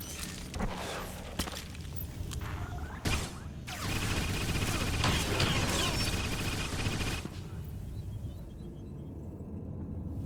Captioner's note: gunfire